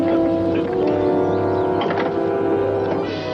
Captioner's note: lock clicks